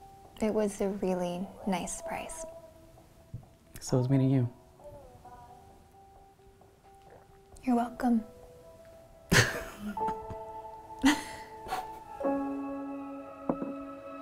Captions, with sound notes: It was a really nice surprise So was meeting you You're welcome (laughter) (laughter)